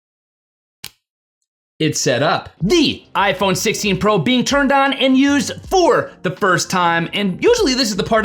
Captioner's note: fingers snap